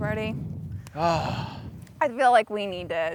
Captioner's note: sighs